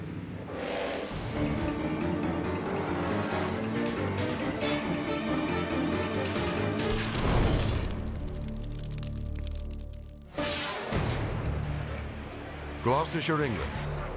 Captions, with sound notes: (suspenseful music) (flames whooshing) Gloucestershire, England.